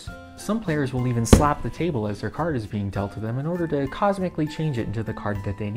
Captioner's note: slap